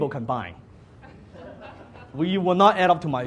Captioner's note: audience laughs